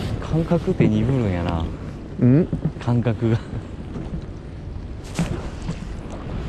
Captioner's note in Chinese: 嗯？